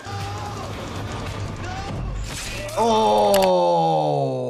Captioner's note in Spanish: hombre con camisa negra gimiendo